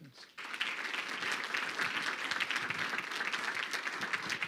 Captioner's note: crowd clapping